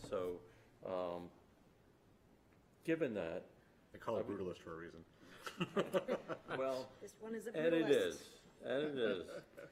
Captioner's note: laughter